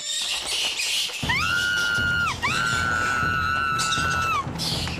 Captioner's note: bat screeching; Sadie Shrieking